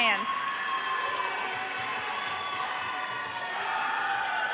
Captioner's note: audience cheering